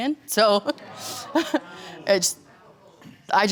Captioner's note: chuckling